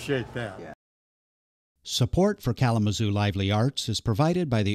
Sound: voiceover

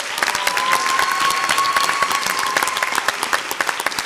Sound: audience applauds

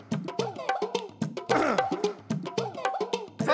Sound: cough

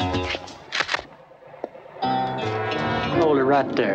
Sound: gun cocks

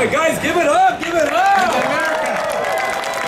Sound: audience cheering

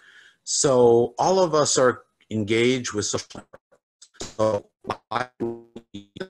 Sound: crackling drowns out

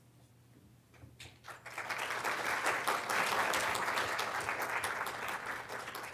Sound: applause

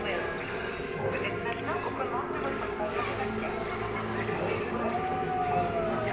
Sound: ride announcement in French

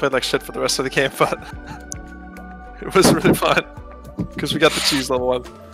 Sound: chuckles

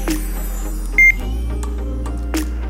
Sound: beep

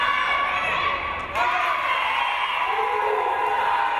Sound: crowd cheering

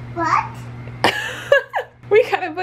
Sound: laughter

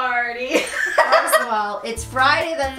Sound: laughs

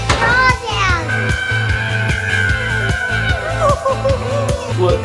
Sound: screaming

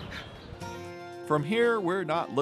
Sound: chuckling

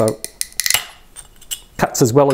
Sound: cracking and snapping

